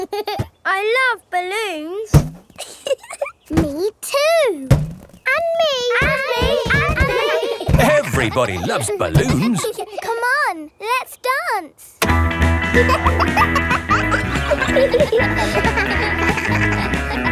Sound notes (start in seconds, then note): 2.6 chuckles; 12.6 kids laughing; 12.8 pop music playing